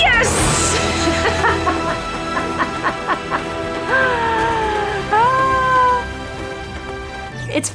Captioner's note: laughs